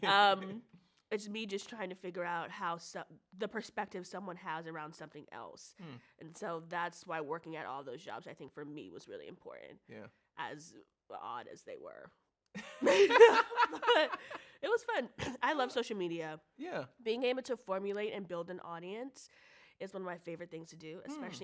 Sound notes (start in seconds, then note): 12.6 both laugh; 15.4 clears throat